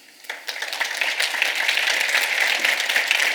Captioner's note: applause